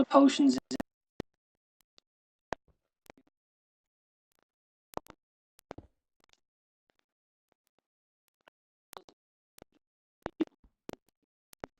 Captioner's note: audio missing